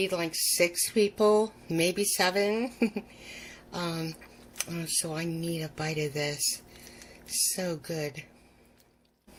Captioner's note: giggles